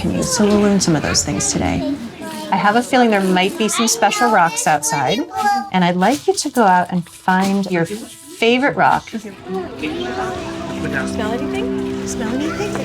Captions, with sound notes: So we'll learn some of those things today. I have a feeling there might be some special rocks outside. And I'd like you to go out and find your favorite rock. [indistinct chatter] - Do you smell anything?